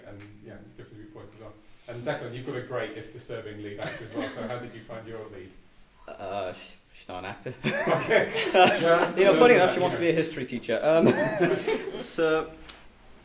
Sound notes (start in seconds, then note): 7.6 chuckling; 11.0 all chuckle